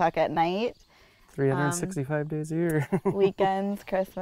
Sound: laughs

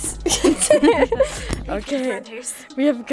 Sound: laughter

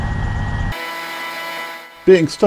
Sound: audio buzzing

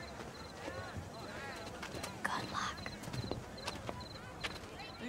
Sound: whispering

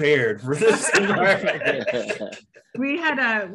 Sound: all laugh

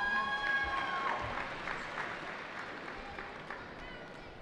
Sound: cheering

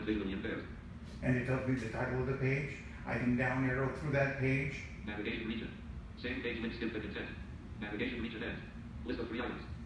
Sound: JAWS speaks

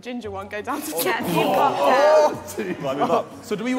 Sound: all laughing

